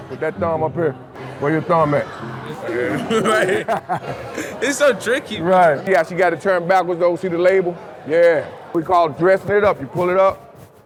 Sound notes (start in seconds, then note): 1.7 laughs